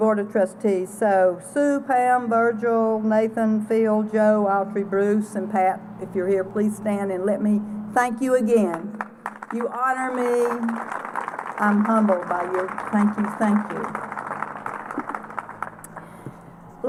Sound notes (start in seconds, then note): 8.6 applause